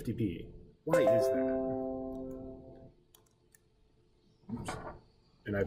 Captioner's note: computer chiming